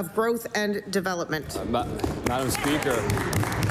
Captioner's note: some Applause